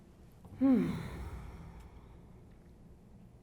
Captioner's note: sighs